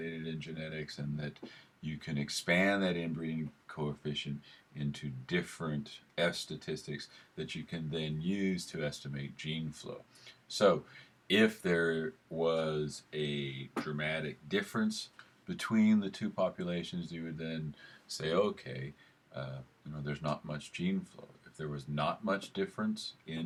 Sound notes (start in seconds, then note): none